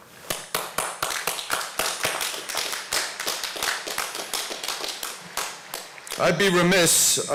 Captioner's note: applause